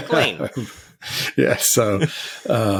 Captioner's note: laughs